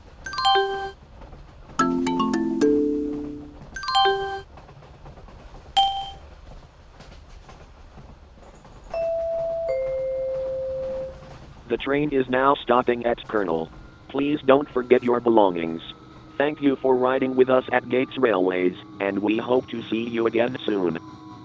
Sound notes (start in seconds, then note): 8.9 train announcement chime